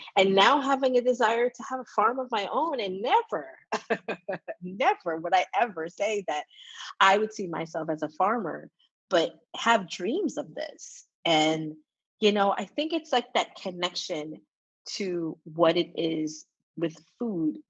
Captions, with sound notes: and now having a desire to have a farm of my own and never, (laughs) never would I ever say that I would see myself as a farmer, but have dreams of this. And you know, I think it's like that connection to what it is with food